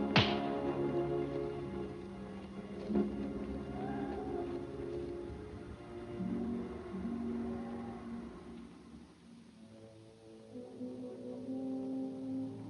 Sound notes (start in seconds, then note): 0.1 golpes en las manos; 10.0 música tensa